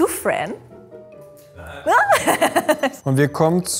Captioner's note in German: Lachen